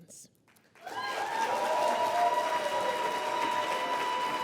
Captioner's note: applause